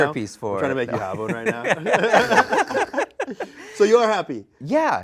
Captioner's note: all laughing